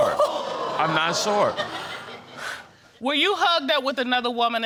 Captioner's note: audience exclaiming